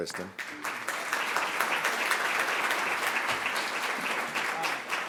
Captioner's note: applause